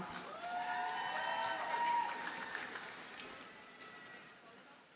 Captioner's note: audience cheers and applauds